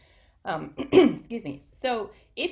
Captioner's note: clears throat